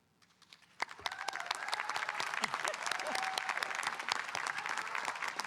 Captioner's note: audience cheering and applauding